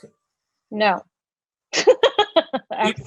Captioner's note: laughs